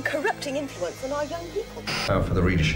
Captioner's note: static hissing